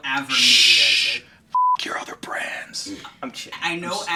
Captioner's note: beeping